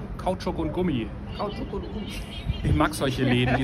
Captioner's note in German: lacht